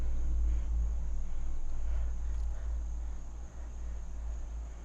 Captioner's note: insects chirping